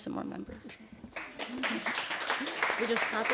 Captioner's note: applause